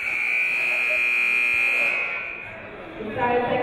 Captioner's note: buzzer